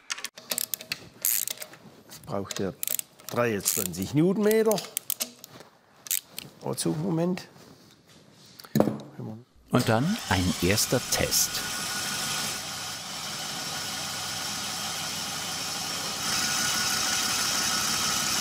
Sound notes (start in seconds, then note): 11.2 engine starts; 16.1 tinny engine noise